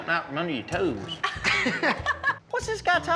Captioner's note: laughs